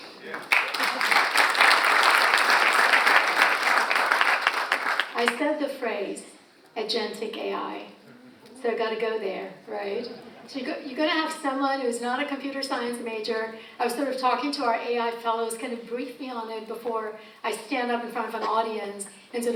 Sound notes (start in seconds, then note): 0.0 audience applauds